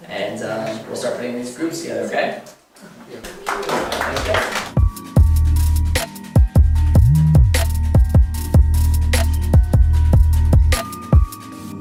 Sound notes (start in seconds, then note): 3.2 applause; 3.4 slow tempo music